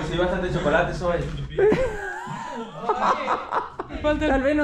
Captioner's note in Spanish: Risas